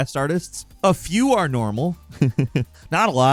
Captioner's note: chuckles